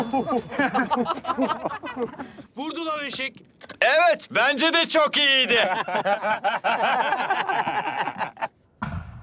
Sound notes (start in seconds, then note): 2.7 speaks turkish